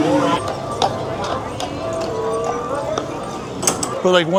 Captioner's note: hooves clopping